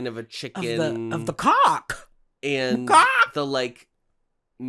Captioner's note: squawks